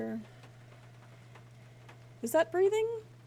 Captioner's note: more Breathing